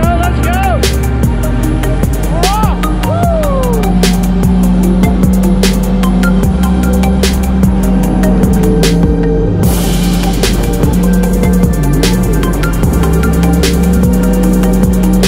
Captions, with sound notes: - Let's go, let's go. We're off! Woo! (techno music) (engine running)